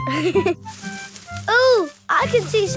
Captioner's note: leaves rustling